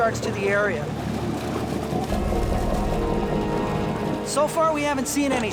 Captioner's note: boat engine roaring